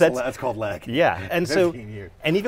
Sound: laughs

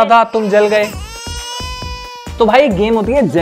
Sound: baby cry

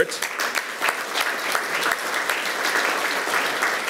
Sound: audience applauds

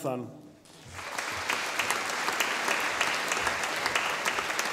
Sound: audience applauding

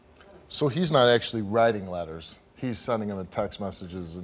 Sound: none

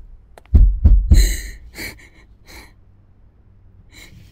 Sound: sobbing; knocking on trunk

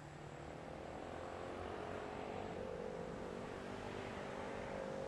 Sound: car engine revving

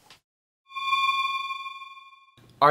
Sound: eerie space sound

